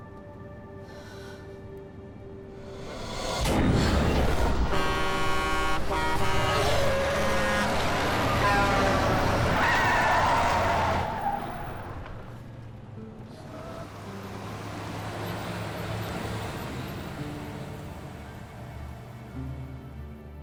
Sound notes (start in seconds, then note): 0.2 sighs; 5.0 horn honking; 10.0 tires screech